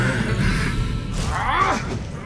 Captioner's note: breath trembling; angry grunt